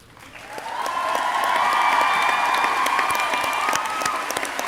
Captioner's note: crowd cheering